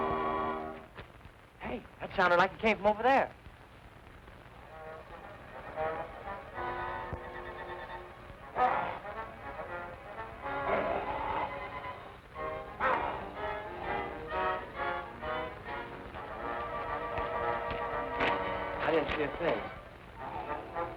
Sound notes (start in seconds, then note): 3.6 dramatic music; 7.4 wolfman growls